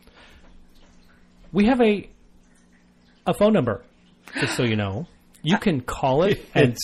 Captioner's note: gaps